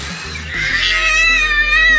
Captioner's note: screaming